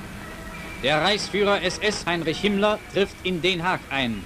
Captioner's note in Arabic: الصوت المنطوق باللغة الألمانية